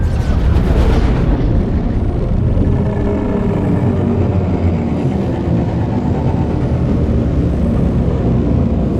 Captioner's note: alien ship sounds